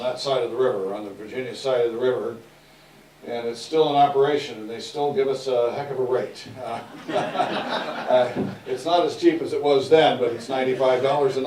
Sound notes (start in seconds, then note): 6.8 laughter